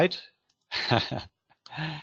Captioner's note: laughs